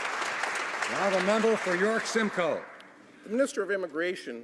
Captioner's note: some Applause